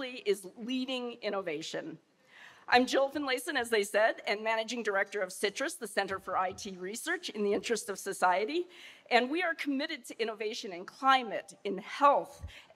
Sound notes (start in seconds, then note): none